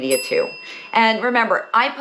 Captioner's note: bell dings